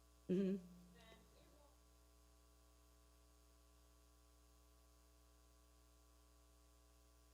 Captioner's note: speaking away from mic